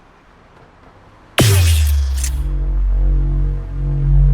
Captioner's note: portal noises